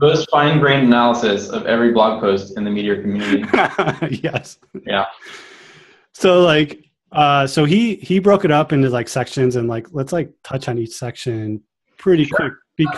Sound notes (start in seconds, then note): 2.3 laughing